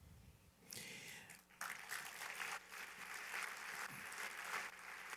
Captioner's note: applause